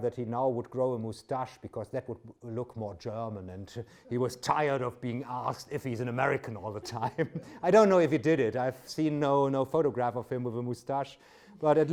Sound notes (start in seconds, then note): 6.6 laughs